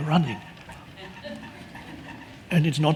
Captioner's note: audience laughing